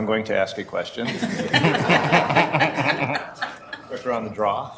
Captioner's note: group laughing